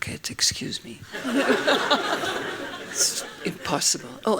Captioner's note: laughing